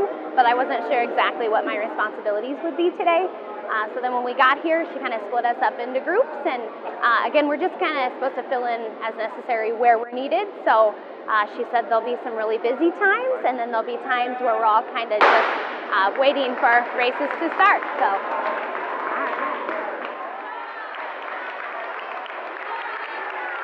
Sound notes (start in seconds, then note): 15.2 starter's pistol fires; 20.3 cheers and applause